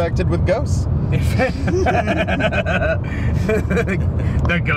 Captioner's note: all laughing